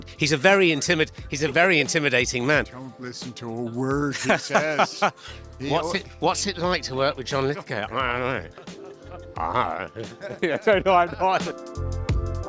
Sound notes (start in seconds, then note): 4.1 chuckling